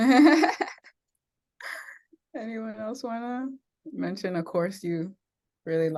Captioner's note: laughs